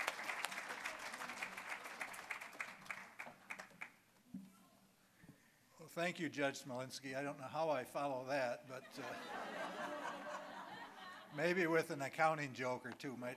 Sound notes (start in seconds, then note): 0.0 applause; 8.8 audience laughing